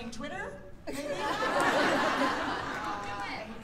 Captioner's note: laughter